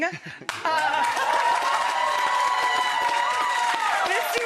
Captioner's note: cheering; clapping